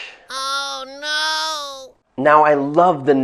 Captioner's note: speaking in squeaky voice